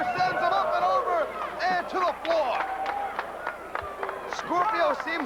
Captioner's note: crowd cheering